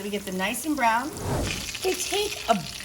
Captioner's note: whooshing sound